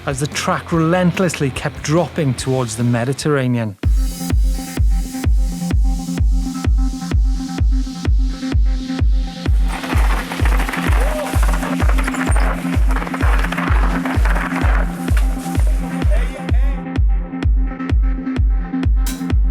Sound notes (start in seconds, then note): 3.8 upbeat electronic music; 9.4 gravel crunching; 16.5 shouting